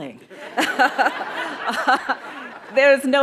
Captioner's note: audience laughing